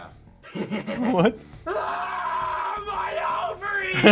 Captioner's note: laughs; screams